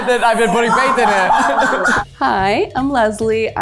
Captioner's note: everyone laughs happily